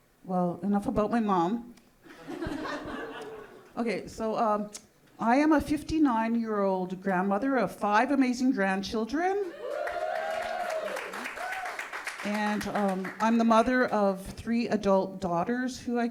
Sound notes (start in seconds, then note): 9.5 audience cheering